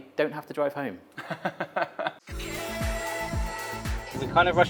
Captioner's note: laughs; upbeat music